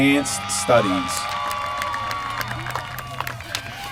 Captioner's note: applause